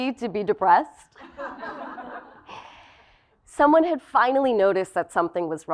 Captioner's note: laugh